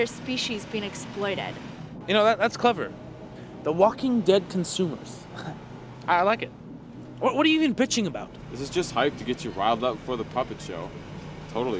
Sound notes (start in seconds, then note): 5.5 chuckles